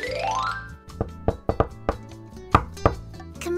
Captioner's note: knocking